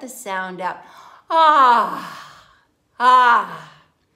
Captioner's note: inhaling and exhaling